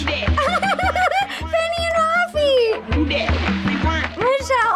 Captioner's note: laughs